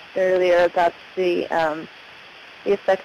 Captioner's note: static